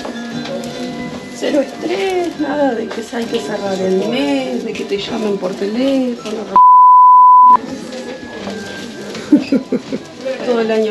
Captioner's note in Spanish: risas